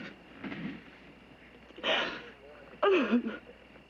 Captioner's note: sobbing